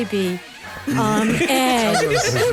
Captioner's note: laughter